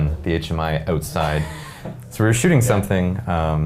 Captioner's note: laughing